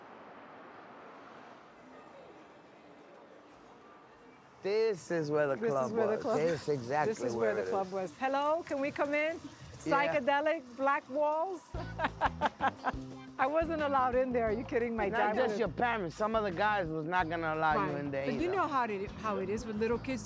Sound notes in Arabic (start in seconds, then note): 11.7 يضحك; 11.7 موسيقى مبهجة